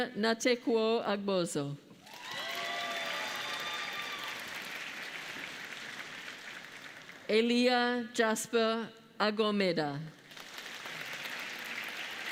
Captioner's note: applause